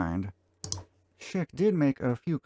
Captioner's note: click